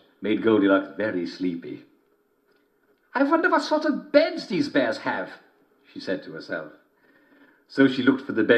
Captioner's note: German accent